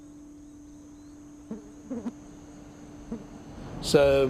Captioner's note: flies buzzing